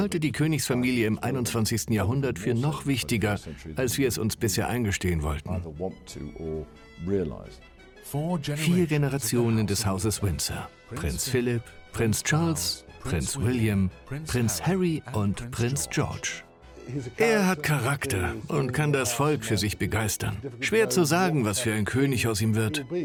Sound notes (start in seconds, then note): 8.0 voiceover